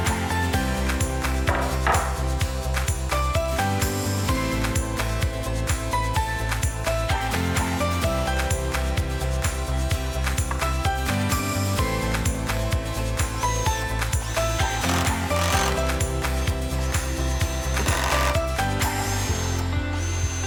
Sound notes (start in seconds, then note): 0.1 upbeat music; 13.4 drill whirring; 13.7 upbeat music